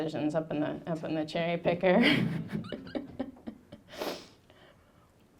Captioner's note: laughing